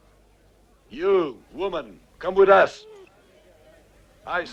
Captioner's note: Beast whines